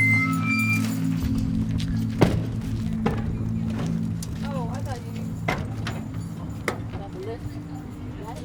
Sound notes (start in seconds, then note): 3.6 door closing; 3.6 door opening